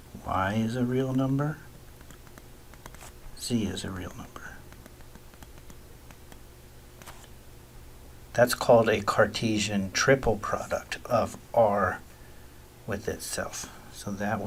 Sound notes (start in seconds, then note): 4.2 writing Sounds